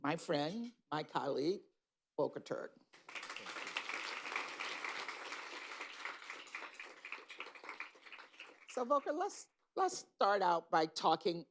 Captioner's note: applause